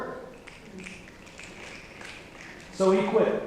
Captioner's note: snapping